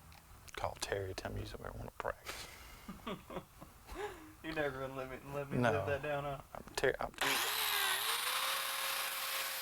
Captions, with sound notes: - Call Terry, tell him you said you want to practice. [laughs] - You're never gonna let me live that down, huh?